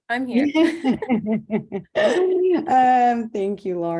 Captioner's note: laughing